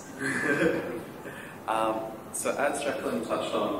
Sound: laughter

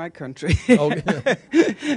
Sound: laughter

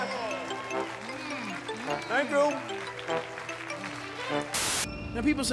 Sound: cheers and applause

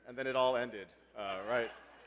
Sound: laugh

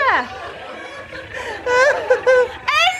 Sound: audience laughter

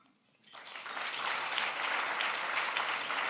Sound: applause

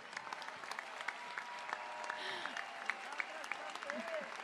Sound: applause

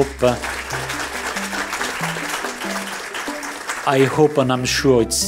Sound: applause

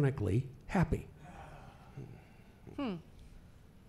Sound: laughing

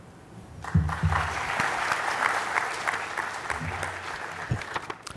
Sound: applause

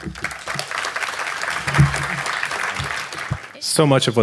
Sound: audience clapping

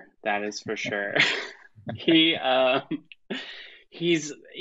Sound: laughs

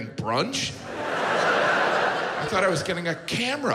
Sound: audience laughs

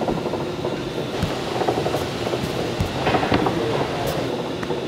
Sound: bagels thudding; background machinery whirring

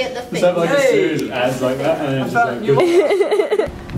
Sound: laughs

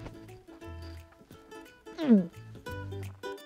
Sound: gulps loudly

